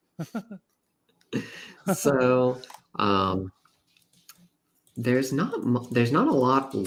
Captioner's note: laughs; laughs